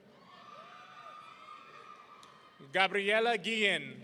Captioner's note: audience cheering